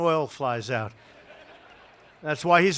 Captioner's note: laughter